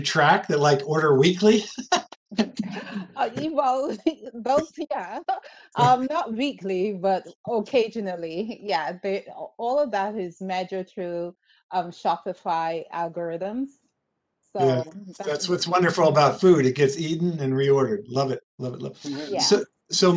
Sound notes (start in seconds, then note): 2.2 laughing; 3.9 speaking faintly